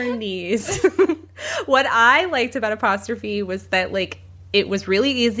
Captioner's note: bingbong